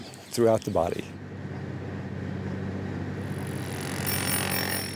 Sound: driving sounds

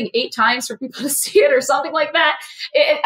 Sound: laugh

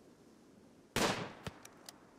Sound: gunshot

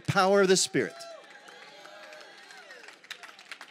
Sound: congregation cheers & claps

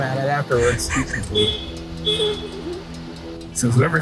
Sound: laughing

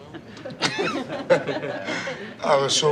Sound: laughs

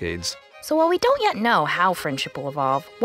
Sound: voiceover

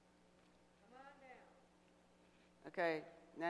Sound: voiceover

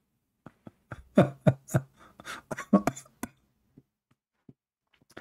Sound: Ketawa

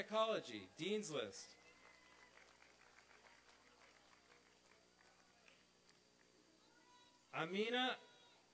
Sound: applause and cheering

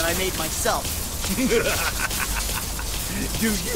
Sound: laugh loudly

